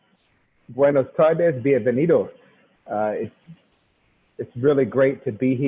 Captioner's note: speaking in foreign language